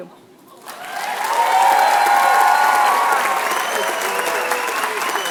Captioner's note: applause